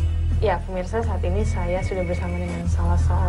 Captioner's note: non-english speech